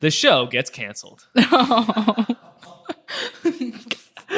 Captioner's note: laughs